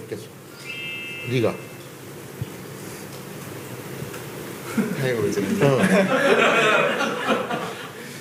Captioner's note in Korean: 관중들 웃음